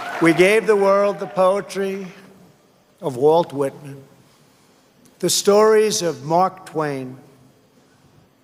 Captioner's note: cheers and applause